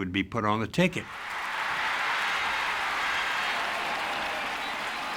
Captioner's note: audience cheering and applauding